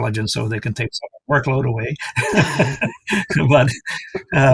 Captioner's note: laughs